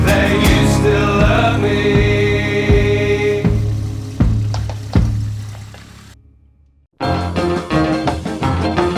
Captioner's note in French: chant